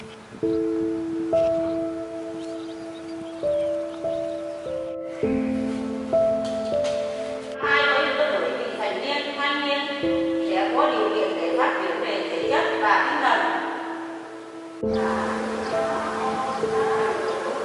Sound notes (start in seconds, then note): 7.6 large speaker sound